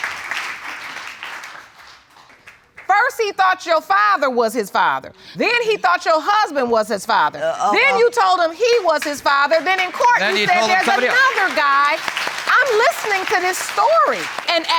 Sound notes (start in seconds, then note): 7.6 stammering